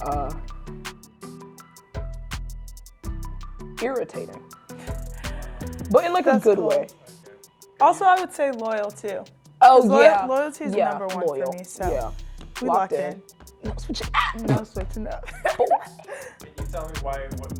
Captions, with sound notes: Irritating. But in like a good way. - Also I would say loyal too. - Oh yeah. - Loyalty's number one for me so we locked in. - Yeah, loyal, yeah. - No switching. - No switching. (both laughing)